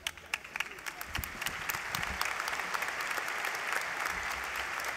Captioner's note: applause